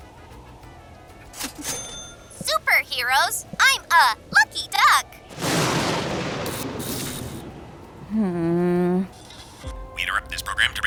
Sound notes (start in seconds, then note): 5.3 thunder crashes